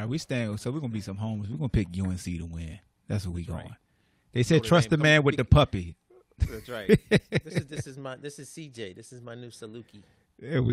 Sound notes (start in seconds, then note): 6.4 laughs